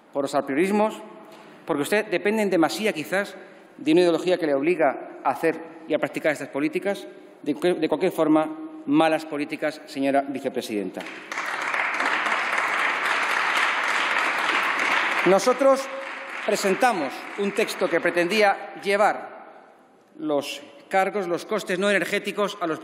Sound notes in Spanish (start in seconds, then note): 11.0 Aplausos